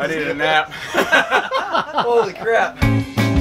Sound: everyone laughs

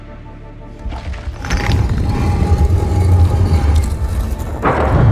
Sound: door opens; trapdoor opens

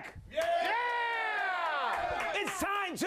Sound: audience cheering

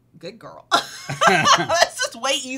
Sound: both laughing happily

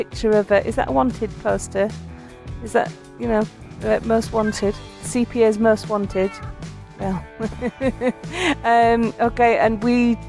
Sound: laughing

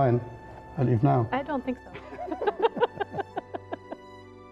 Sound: laughing

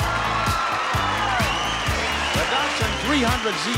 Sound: cheering

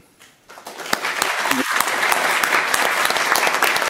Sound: audience clapping

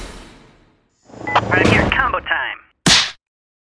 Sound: over comm

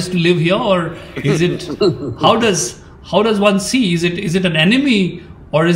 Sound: Sadhguru laughs

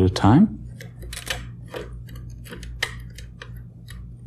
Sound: clicks

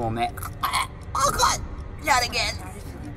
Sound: chokes

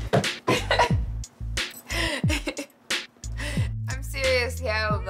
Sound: laughter

